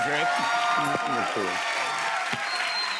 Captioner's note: cheers and applause